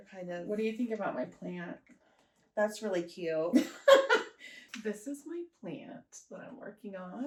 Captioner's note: laughter